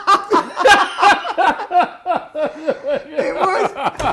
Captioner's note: Ainsley laughing; hysterically laughing